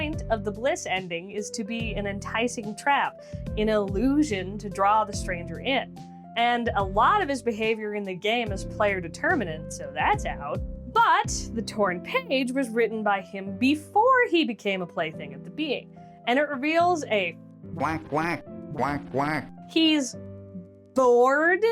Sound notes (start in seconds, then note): 17.8 quacking; 17.8 quack